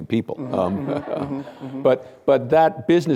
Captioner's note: laughter